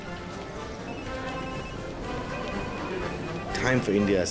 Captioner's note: phones ringing